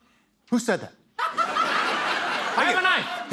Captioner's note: laughter